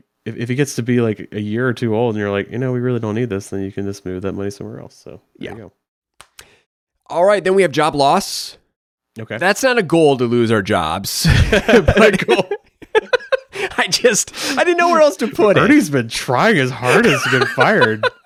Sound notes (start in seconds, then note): 11.2 both laugh; 16.7 laughs